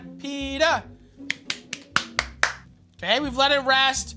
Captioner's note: claps